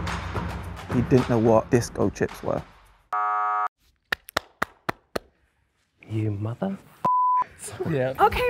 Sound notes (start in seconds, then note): 3.1 buzzer; 4.1 clapping